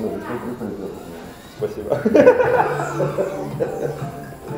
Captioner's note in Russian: смех